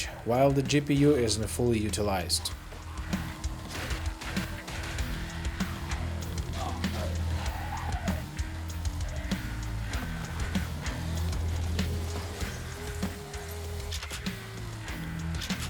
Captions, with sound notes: while the GPU isn't fully utilized. (upbeat music) (gunshots)